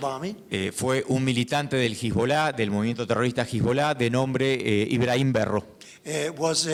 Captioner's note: speaking in foreign language